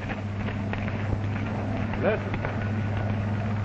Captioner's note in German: Flugzeug rumpelt